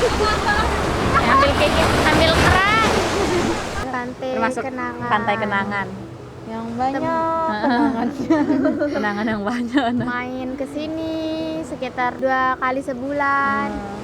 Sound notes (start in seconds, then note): 7.3 girls laughing